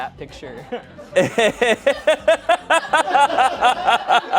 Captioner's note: laughs